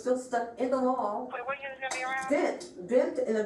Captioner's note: radio chatter